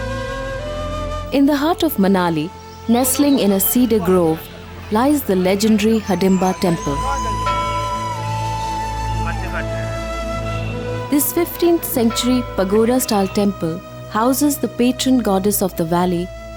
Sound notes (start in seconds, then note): 0.0 soft gentle music; 7.1 bell chimes; 7.1 soft gentle music